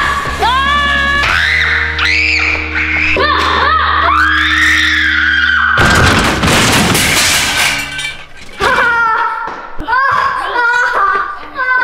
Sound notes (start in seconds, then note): 1.2 screaming; 5.7 objects crashing; 8.7 laughing